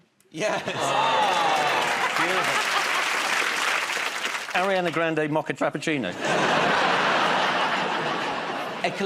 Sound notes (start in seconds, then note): 0.4 laughter; 2.8 applause; 6.1 laughter